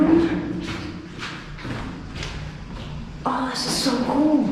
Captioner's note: echoing footsteps